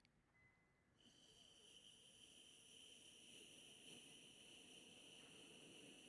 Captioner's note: mimics white noise